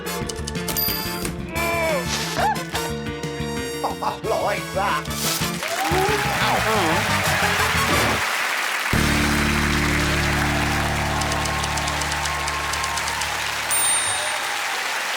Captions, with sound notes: Oh! Oh, I like that! -Oh! -Wow. -Mm! -[cheering and applause] [audience applauding] -[typewriter keys clacking] -[audience applauding]